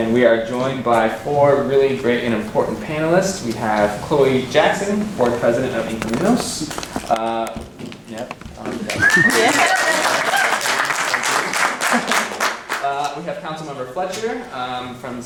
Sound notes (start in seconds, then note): 8.8 clapping and cheering